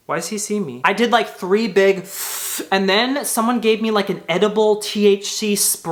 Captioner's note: inhales